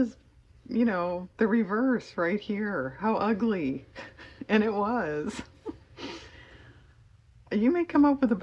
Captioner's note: laughs